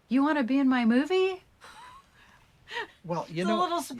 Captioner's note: laughing